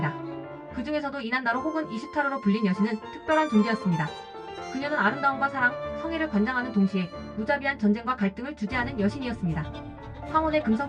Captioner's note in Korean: 아카드어로